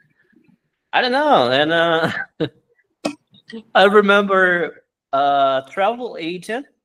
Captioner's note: laughs